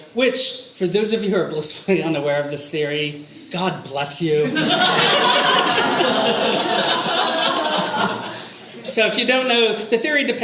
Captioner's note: audience laughter